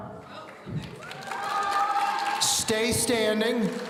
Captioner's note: audience cheering